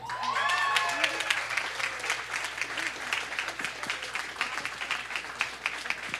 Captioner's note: audience cheering and applause